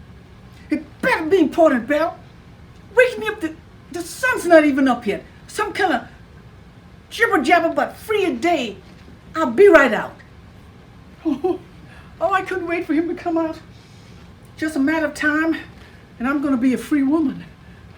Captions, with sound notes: "It better be important, Belle! "Waking me up, the sun's not even up yet! "Some kind of jibber jabber about free a day. "I'll be right out." (chuckles) Oh, I couldn't wait for him to come out. Just a matter of time and I'm gonna be a free woman.